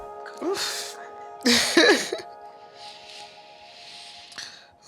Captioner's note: laughing